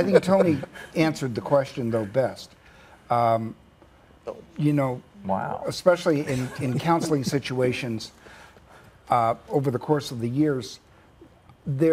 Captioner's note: laughter 4@